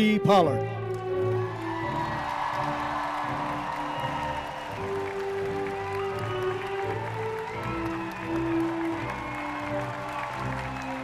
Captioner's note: applause